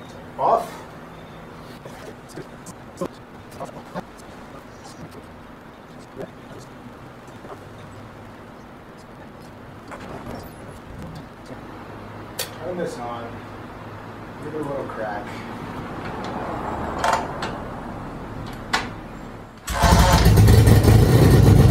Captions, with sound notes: Off! [Click] Turn this on. Give it a little crack. [Ratcheting noise] [engine starts]